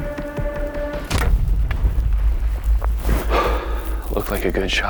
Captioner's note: bowstring thuds